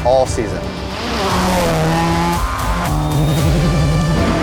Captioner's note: engine revving